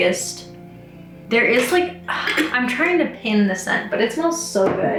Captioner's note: sighs